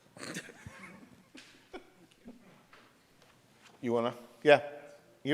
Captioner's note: competitors laughing